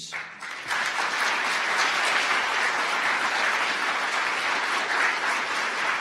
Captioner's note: audience applause